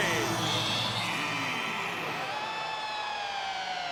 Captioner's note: crowd cheering